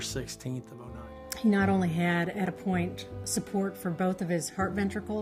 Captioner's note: voiceover